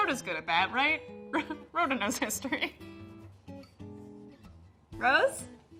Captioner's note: laughs